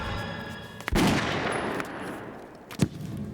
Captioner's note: gun fires